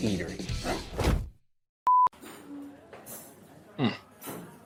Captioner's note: beeping